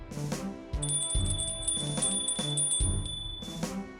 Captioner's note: bell rings